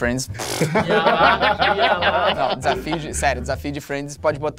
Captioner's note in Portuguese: risadas